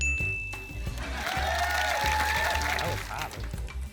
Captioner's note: applause